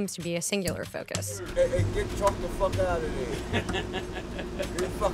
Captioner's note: laughter